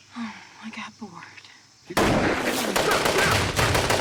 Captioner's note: gunshots